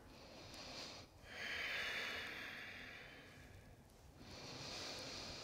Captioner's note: inward and outward strong breaths